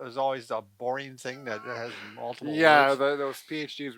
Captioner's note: chuckles